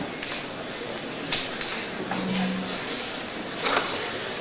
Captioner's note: overlapping chatter